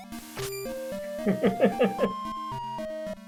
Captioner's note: chuckles